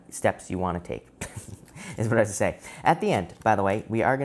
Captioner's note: laughs